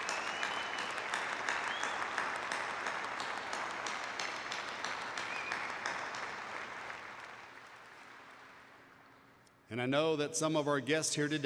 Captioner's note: applause